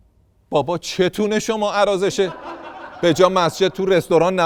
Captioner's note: laughter